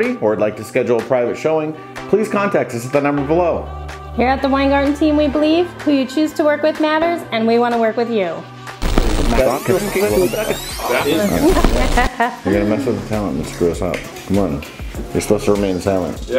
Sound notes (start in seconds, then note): 8.8 rewinding and scrambled audio; 11.2 laughing